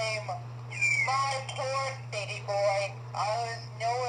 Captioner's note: Luxo Jr. Crying